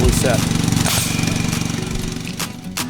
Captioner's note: equipment blaring; bright upbeat music